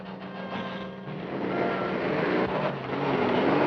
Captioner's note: engine rewing